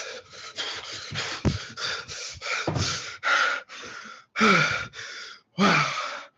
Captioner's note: panting